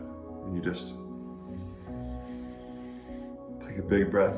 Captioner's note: breathing deeply